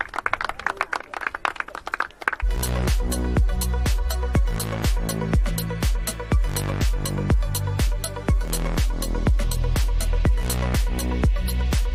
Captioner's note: applause